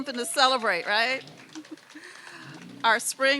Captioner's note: applause